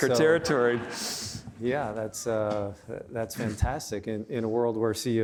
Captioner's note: audience laughing